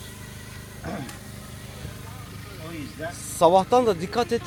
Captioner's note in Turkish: boğazını temizler